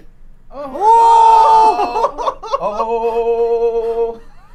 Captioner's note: all exhale